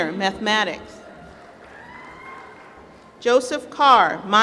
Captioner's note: applause